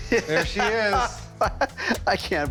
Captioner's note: laughs